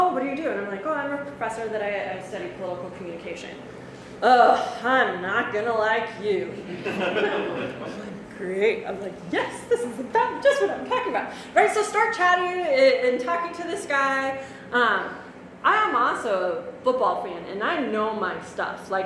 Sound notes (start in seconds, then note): 6.6 audience laughs